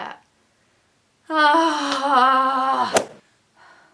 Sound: sighs

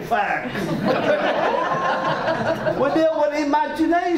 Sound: audience laughs

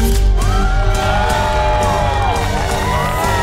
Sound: crowd cheers; intense music plays

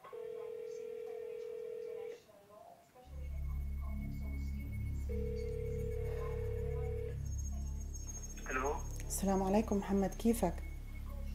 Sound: phone ringing

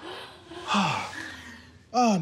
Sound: Rufus sighs

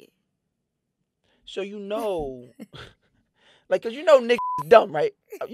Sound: beep

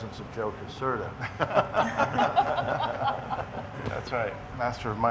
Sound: several laughing

